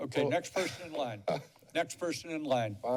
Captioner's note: chuckles